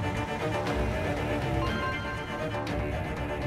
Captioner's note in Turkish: Telefon çalıyor